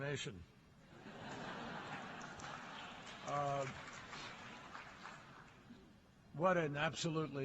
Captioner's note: laughter and applause